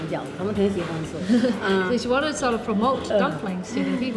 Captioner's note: laughs